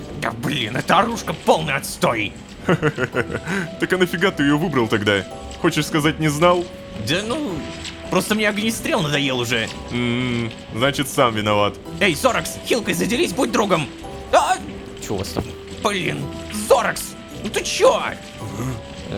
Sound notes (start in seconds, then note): 2.6 pat; 9.9 pat